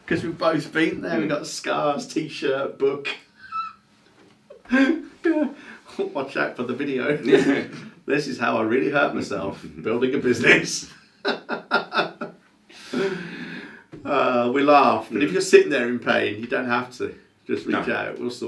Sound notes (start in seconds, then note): 3.4 laughing; 11.2 laughing